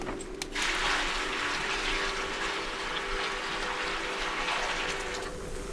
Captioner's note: fire crackling; hot water pouring